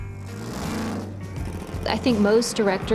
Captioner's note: engine revving